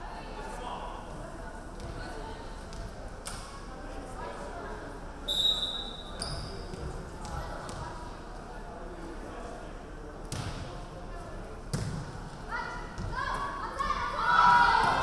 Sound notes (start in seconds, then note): 5.2 referee whistling